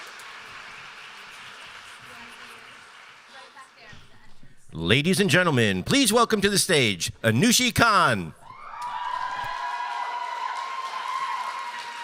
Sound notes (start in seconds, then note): 8.8 applause